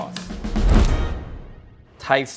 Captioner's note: dramatic whoosh